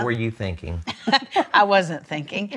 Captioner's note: laughs